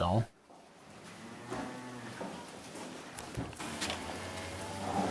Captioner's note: cows bellowing